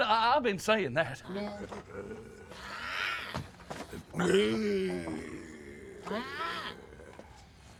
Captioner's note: growling